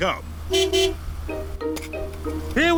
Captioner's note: honks horn